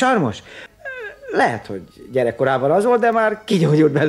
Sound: laughs

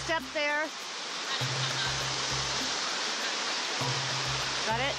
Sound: sound of rushing water intensifies

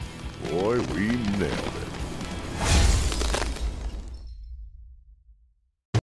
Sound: ice shattering

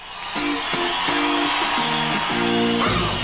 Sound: audience applauding

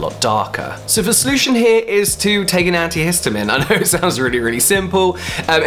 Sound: laughs

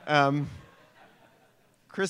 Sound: laughter

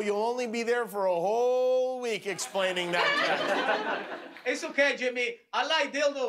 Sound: laughter

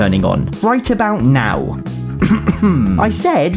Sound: clears throat

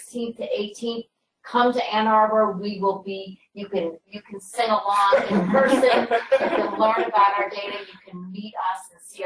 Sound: laughter

